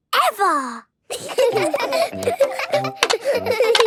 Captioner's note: laughter